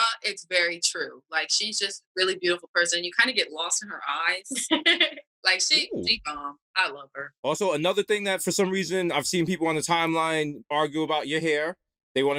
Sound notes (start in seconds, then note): 5.7 laughs